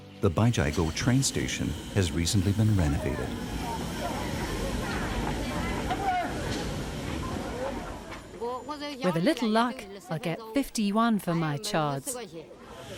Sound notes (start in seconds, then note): 3.9 people chanting; 3.9 speaking in foreign language